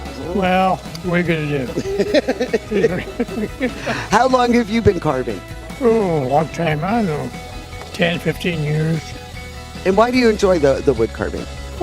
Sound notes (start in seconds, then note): 1.6 laughing